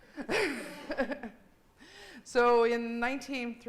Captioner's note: laughing